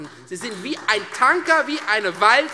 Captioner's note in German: Beifall Freie Demokraten